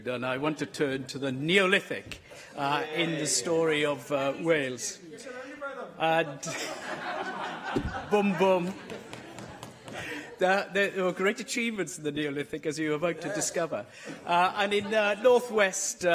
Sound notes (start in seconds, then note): 9.8 laughter